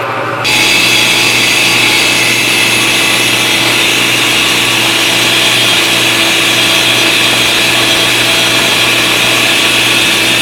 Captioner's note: grinding noise